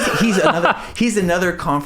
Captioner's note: laughing